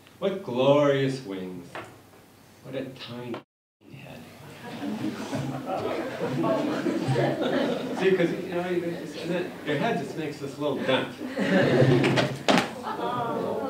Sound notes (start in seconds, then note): 6.6 laughter